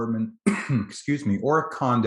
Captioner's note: coughs softly